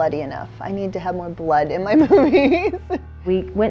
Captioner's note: laughing